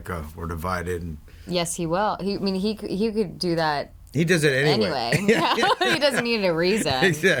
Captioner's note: laughs